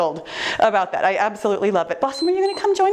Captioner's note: timer beeps